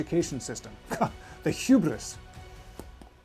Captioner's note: scoffs; dramatic music